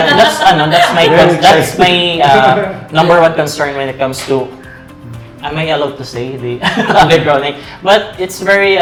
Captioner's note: laughs; laughs